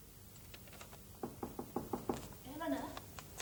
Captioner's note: knock on door